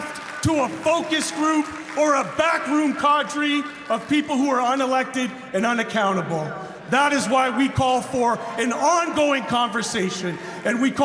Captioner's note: cheer and applause